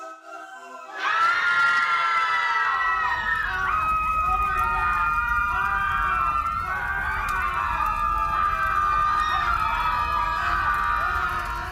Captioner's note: ponies screaming